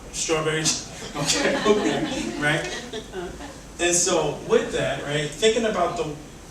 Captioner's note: laughs